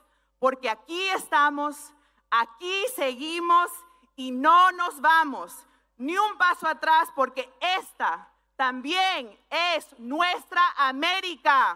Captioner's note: speaking spanish